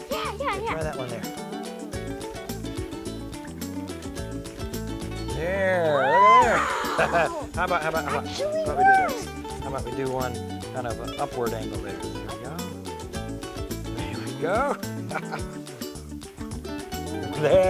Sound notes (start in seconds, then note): 2.7 light music; 6.4 gasping; 14.1 chuckles